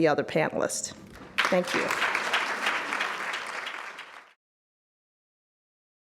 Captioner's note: audience applauds